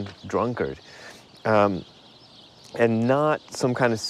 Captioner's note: birds chirping